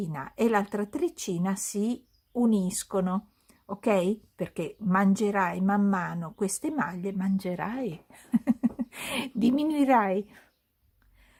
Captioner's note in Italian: risate